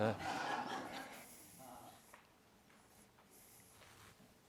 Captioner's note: group laughter